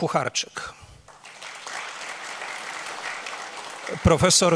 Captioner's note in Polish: oklaski